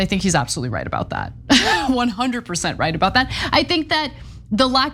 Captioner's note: laugh